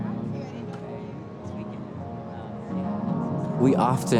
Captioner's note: friends indistinctly chatting